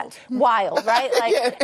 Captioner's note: laughter